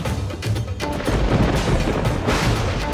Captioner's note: thundering